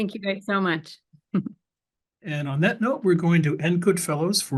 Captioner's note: laugh